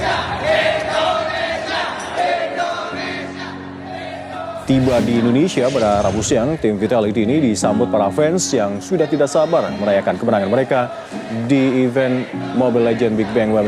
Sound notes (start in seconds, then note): 4.7 reporter in Indonesian